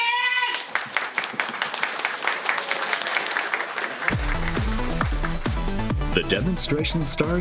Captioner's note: applause